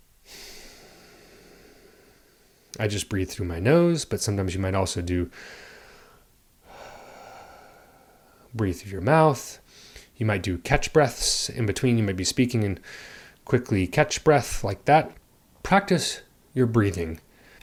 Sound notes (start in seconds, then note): 5.3 breathes; 12.8 breathes quickly